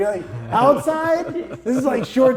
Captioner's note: laughing